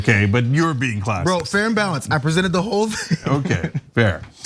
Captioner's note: laugh